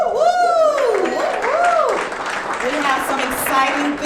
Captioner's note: audience clapping